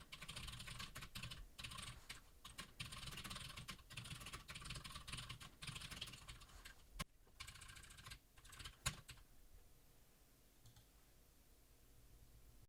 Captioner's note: typing sounds